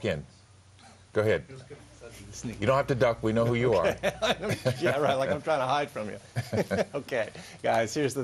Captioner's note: laughter